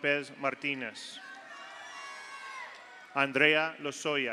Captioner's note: audience cheers; audience applauds